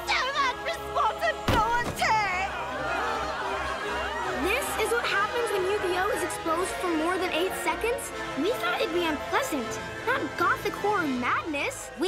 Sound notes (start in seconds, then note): 2.0 indistinct chatter